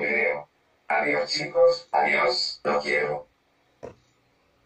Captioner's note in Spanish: Voz Robotico